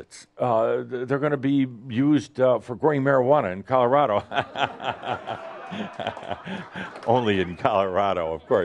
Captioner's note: lots of laughter